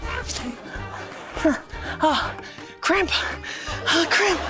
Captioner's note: grunts; gasps